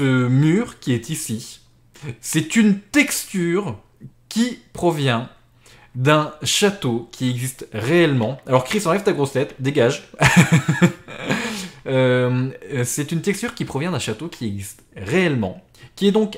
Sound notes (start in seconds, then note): 10.2 laughs